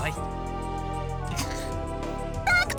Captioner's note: pained groan